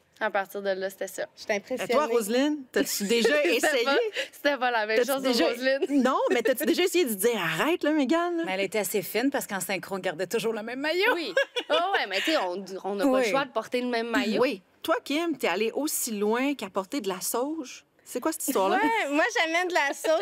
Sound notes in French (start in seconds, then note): 11.3 rire; 19.6 rires